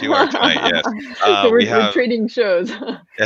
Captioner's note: laughs